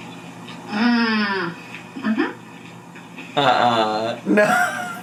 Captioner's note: hums